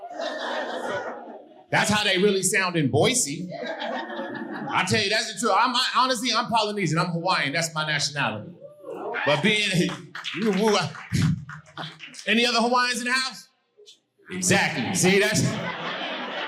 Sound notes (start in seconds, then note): 3.4 audience laughing; 9.2 audience applauding